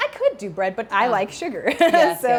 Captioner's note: chuckles